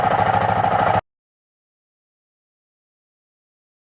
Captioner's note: engine cuts out